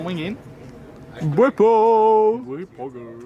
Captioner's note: talks in funny voice; repeats funny voice